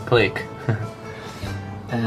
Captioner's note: giggle